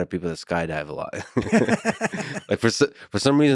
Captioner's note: both laughing